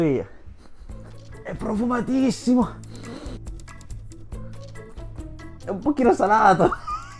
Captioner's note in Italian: risate